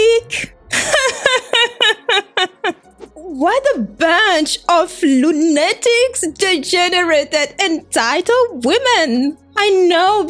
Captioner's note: laughs